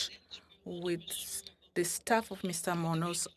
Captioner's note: speaking French